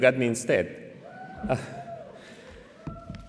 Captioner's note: cheering